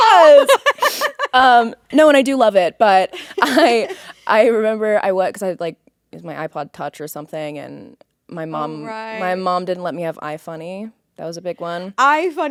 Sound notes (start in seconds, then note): 0.0 Courtney laughing